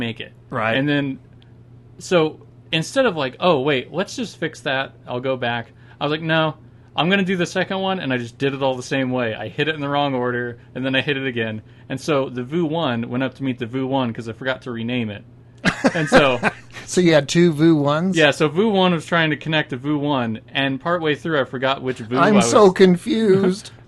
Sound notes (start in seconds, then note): 15.6 laughing